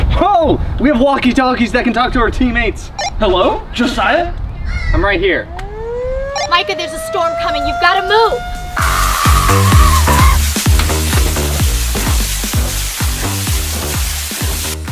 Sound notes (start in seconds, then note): 5.4 alarm blares; 8.8 screaming; 8.8 water spraying